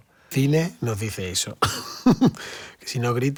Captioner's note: laughter